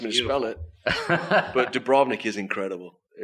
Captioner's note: laughs